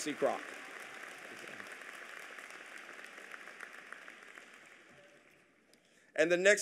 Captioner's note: applause